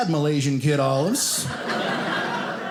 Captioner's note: audience laughing